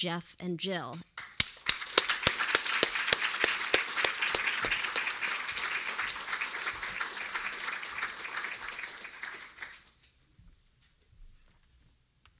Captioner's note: applause